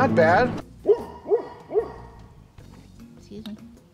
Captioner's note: dog barking